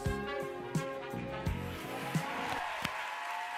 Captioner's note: audience cheering; audience clapping; hand slapping